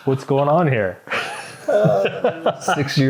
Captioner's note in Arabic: يضحكون